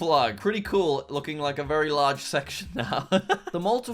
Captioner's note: laughs